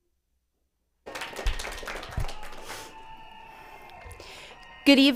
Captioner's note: applauds